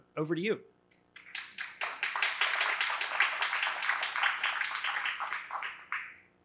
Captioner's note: applause